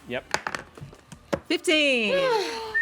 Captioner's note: rolls dice